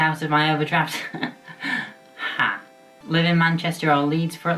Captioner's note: laughs